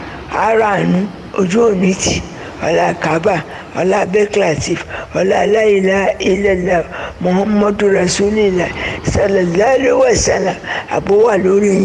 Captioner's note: sound of waves